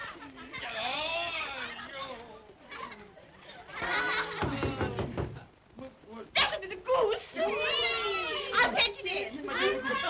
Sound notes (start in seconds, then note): 2.6 children laugh; 4.4 knocking on door; 7.3 vocal sounds of delight